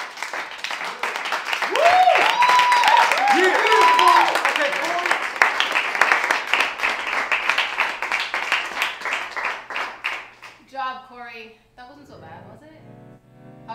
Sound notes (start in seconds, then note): 0.0 students slowly applaud; 0.0 students applaud loudly